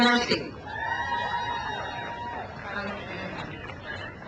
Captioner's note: crowd cheers